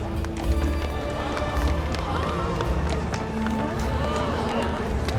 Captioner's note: crowd gasping